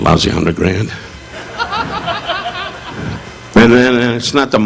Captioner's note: audience laughing